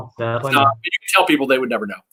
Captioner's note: faintly speaking